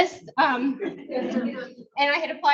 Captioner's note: audience laughs